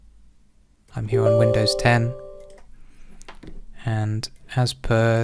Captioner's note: computer chimes